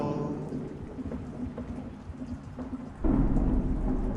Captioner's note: thunder rumbling